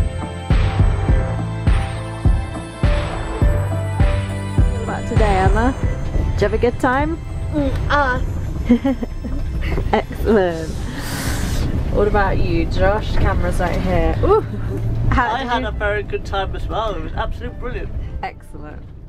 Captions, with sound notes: So, what about today, Emma? - Did you have a good time? - Dirty hands! (laugh) (laugh) Excellent! What about you, Josh? Camera's right here - ooh - How did you - - I had a very good time as well, it was absolutely brilliant - It was absolutely brilliant - Excellent!